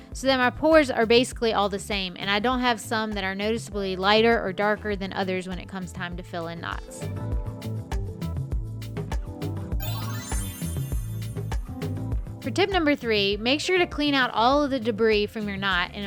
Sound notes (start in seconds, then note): 7.2 gentle music; 7.2 transition sound